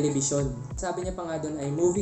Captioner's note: in Spanish